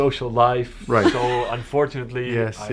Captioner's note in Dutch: lach